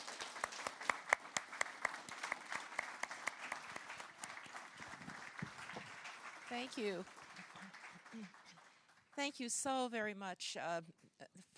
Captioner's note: applause